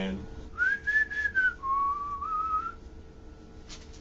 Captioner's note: whistling